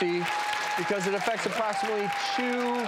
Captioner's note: audience applauding